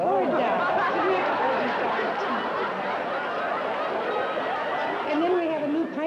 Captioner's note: laughter